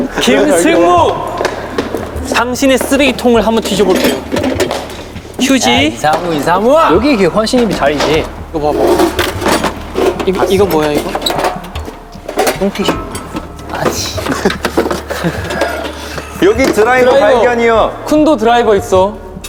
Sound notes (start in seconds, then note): 11.3 fumbling